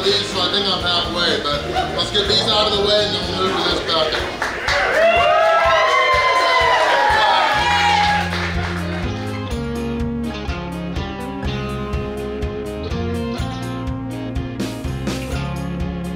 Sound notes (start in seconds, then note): 3.6 crowd cheering; 11.4 mellow rock music plays